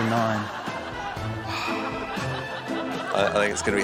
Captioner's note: sighs